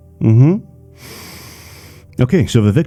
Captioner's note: sniffffffffffff